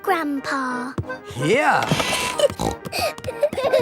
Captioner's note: snorting; kids giggling